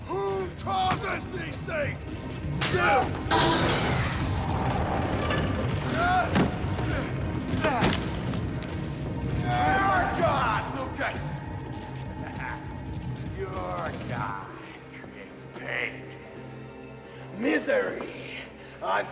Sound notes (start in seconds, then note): 3.3 roars; 12.1 laughs